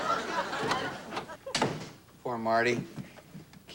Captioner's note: door shuts